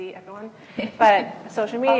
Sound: laughs

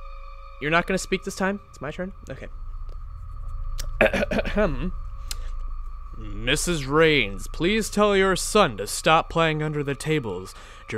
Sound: clears throat

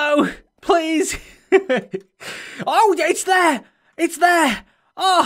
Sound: laughs

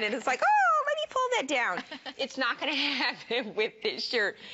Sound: laughter

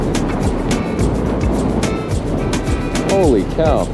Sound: wind gently howling

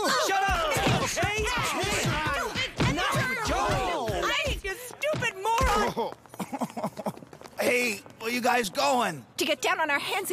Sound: all shouting

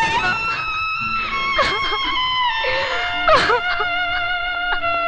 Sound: crying

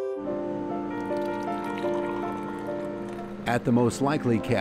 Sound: sound of coffee pouring

